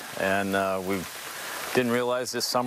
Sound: nats rain

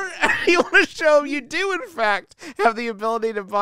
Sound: laughs

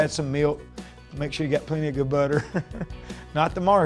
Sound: laughs

